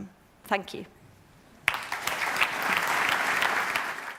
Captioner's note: applause